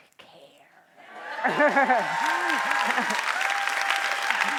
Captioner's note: cheering